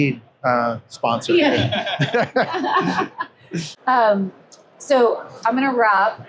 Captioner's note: laughs